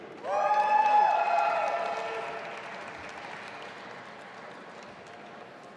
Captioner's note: audience applauding and cheering